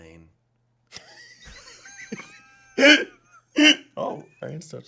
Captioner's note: laughing